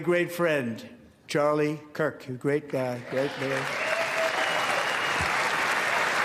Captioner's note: applause